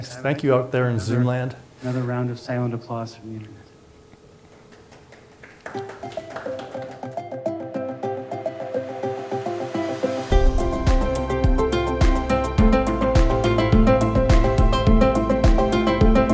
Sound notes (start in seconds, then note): 4.7 applause